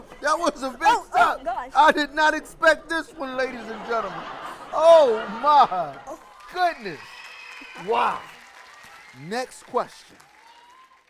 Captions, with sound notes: That was a big step. I did not expect this one ladies and gentlemen. Oh, my, goodness. (people cheering) Wow. Next question.